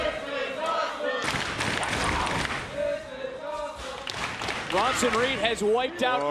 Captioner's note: crowd cheering